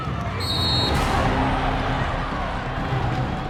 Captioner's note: whistle